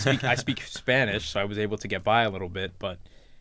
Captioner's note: laughs